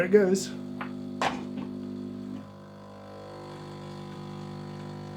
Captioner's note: machine humming